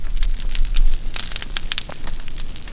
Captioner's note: fire Crackling